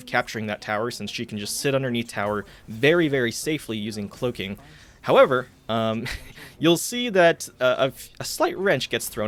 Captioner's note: chuckles